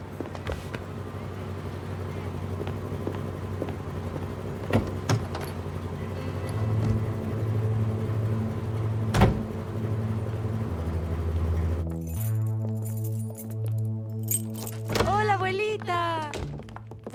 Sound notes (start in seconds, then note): 7.6 sinister music; 12.1 keys jingling